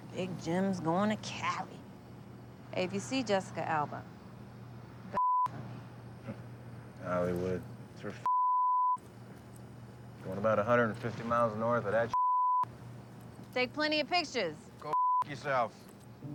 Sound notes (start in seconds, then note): 6.4 chuckles